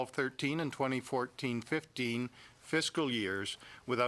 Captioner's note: speaking english